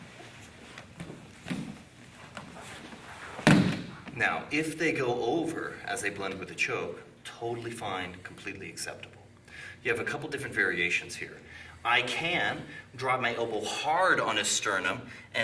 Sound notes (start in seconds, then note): 0.0 soft shuffling; 3.4 loud thumping